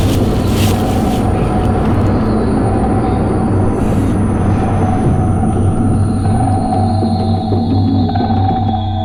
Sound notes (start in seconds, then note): 3.6 Morales breathing heavy